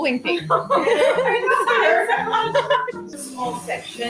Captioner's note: nervous laughter